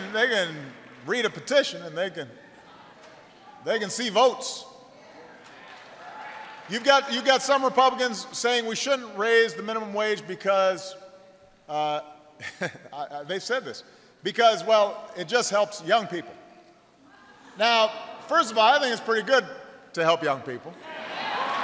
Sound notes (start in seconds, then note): 5.5 applause